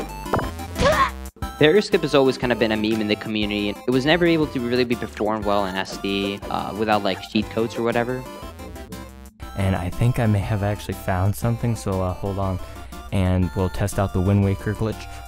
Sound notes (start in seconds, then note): 0.7 Link shouts in pain